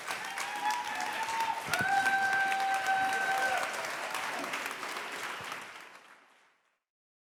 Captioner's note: audience cheers; audience applauds